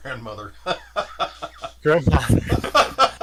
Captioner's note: laughs